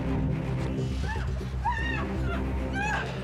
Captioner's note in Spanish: gritos